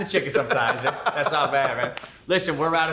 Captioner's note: laughing